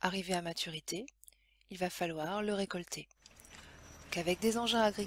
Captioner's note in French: bruit de moissonneuse